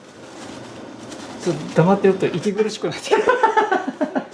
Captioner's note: laughs